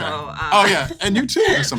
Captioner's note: laughs